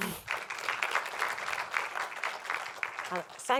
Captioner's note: applause